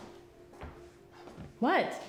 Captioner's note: footsteps tapping